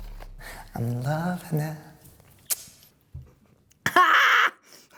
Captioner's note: low buzzing tone; clicks tongue; laughs loudly